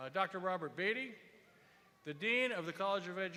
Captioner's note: cheers and applause